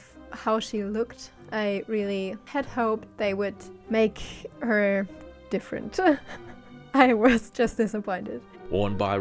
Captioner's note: laughs